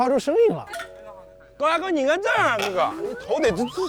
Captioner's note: laughing